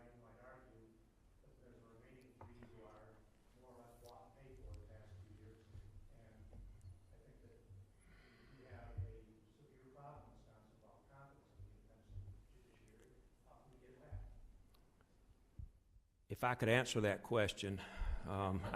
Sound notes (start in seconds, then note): 2.2 speaks faintly; 10.0 speaks faintly